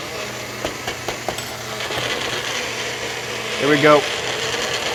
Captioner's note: food processor buzzing